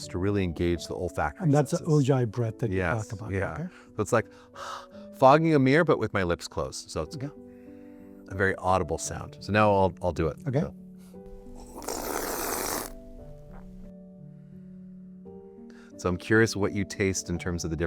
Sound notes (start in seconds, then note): 11.5 slurping